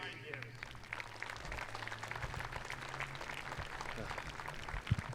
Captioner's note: audience applauding